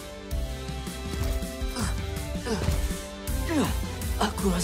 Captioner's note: groaning